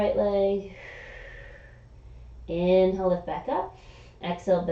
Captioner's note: exhaling